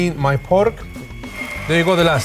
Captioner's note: grinder whirring